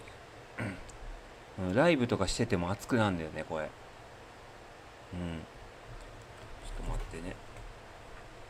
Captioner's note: clears throat